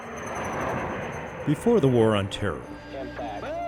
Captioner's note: low engine rumbling; voiceover